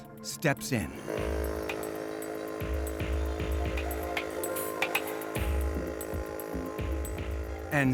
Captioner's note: machine whirring